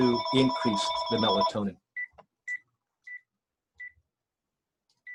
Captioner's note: phone rings